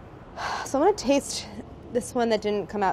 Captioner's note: sighs